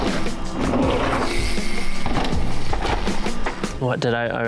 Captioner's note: upbeat music; chain whirring